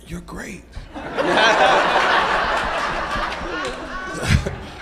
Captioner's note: audience laughs